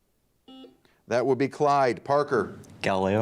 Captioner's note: buzzer dings